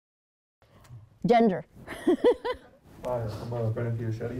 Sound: laughs

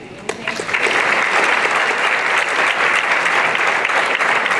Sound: applause

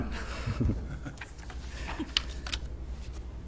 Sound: chuckles

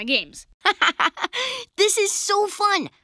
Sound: laughing

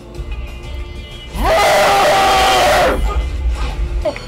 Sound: vrrrrrrrrrrrrrrrrr!

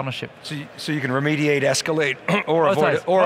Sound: clearing throat

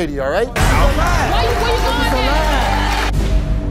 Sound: audience cheers

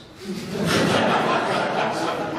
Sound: audience laughs

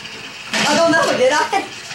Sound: chuckles

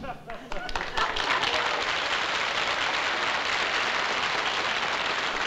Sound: applause

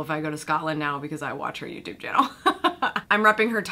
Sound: chuckles

